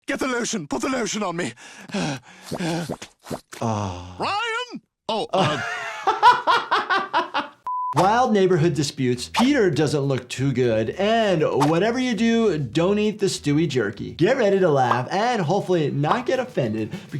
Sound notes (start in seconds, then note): 1.5 Stewie breathing heavily; 5.2 laughing